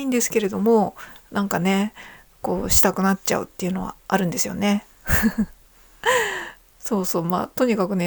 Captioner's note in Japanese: 鼻息; 笑い